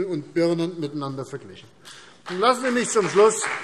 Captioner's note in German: Beifall CDU und BÜNDNIS 90/DIE GRÜNEN